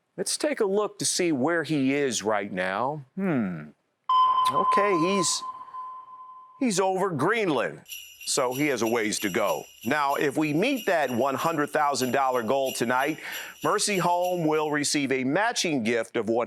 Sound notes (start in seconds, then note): 4.1 ding; 8.6 sleigh bells